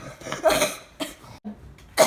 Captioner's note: cough